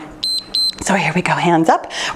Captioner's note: timer beeps